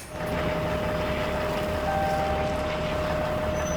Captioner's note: motor running